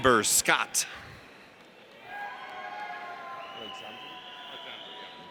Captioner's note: audience cheers